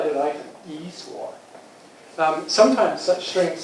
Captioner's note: non-english